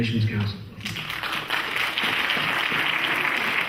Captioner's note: clapping